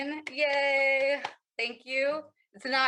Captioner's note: claps